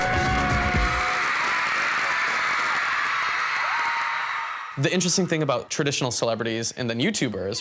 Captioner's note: crowd cheering